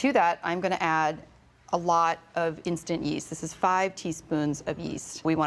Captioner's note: none